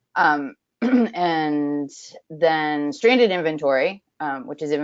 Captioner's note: clears throat